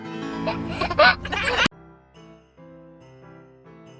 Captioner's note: laughs; upbeat music